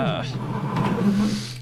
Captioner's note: chair scratching the floor